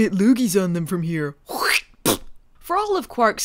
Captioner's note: spits